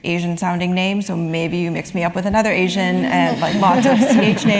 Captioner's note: laugh